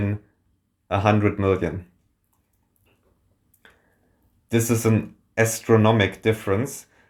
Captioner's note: beat